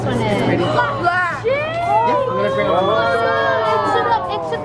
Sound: excited exclaiming

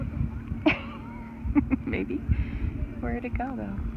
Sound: laughs

